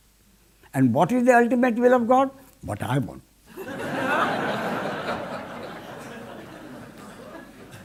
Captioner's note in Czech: smích